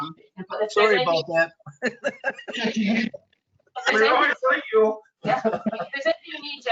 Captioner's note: laughs